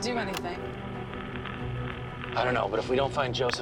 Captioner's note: line ringing